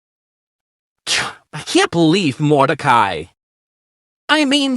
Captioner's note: scoffs irritably